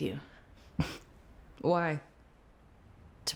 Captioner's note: scoffs